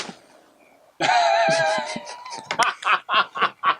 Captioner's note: paper dropping; laughing